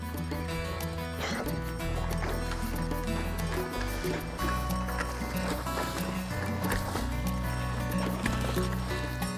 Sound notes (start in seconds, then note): 3.7 upbeat music; 3.7 water splashing